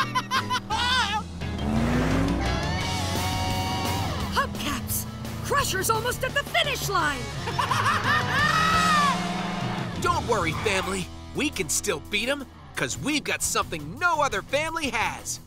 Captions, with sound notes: Hubcaps, Crusher's almost at the finish line! [laughing] Don't worry family, we can still beat him, because we've got something no other family has...